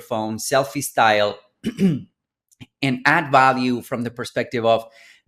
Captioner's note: clears throat